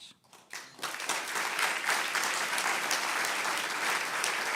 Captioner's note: applause